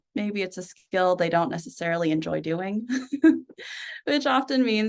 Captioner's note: chuckles